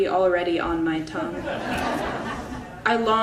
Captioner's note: audience laughing